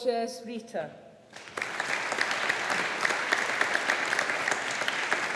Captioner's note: audience applauding